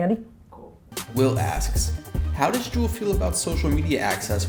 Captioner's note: voiceover